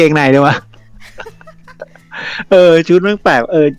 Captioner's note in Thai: หัวเราะ